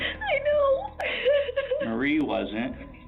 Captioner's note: crying